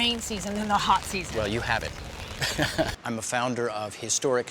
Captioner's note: laughs